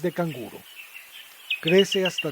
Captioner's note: birds' chirping